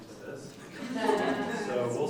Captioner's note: laughing